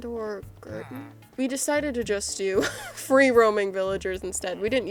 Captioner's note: laughs